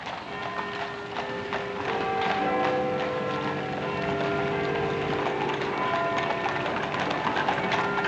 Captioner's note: bell chiming